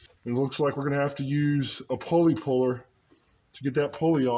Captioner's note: none